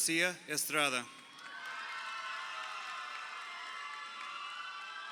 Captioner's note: crowd cheering